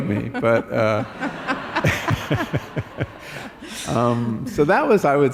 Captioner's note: laughter